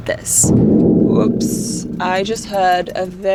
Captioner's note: booming